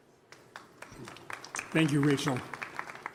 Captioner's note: applause